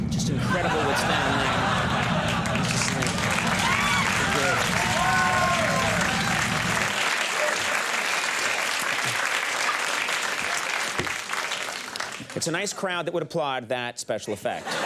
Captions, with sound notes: Just incredible what's down there. (crowd laughs) (crowd cheers) It's a nice crowd that would applaud that special effect.